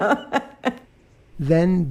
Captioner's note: laughs